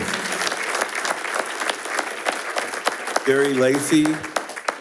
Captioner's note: attendees applauding